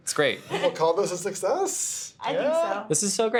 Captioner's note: laughing